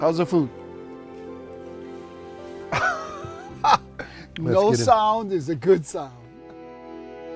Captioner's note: laughing